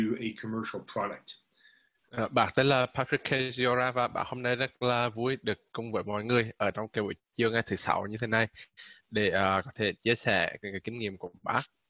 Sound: speaking Vietnamese

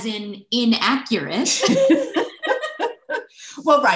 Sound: laughter

